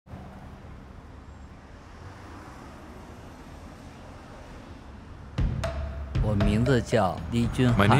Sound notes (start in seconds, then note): 0.0 traffic hums; 5.4 chinese-style music